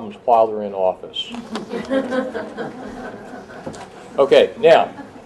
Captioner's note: laughter